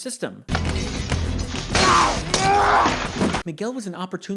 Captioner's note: Dexter smashing and yelling